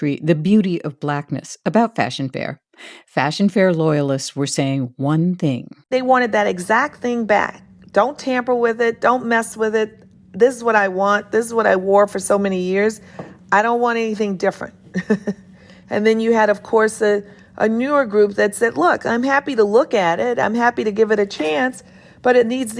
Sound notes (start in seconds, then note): 14.9 laughter